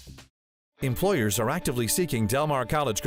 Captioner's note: voiceover